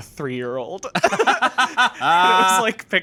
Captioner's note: laughing